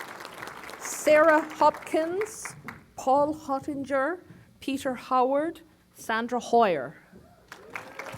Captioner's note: applause